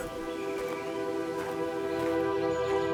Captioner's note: footsteps